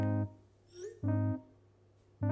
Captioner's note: message alert sound